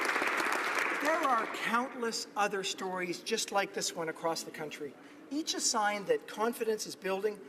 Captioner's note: applause